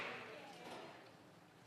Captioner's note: some Applause